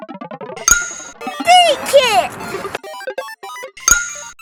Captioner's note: magical ting; magical ting